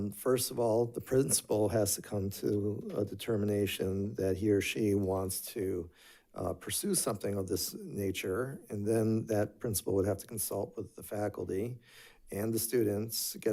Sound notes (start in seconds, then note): none